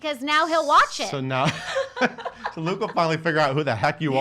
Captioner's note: laughing